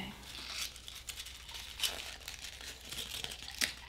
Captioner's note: crumpling paper